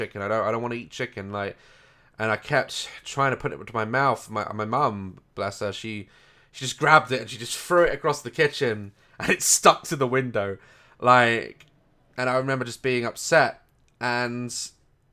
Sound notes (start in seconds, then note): 8.6 laughs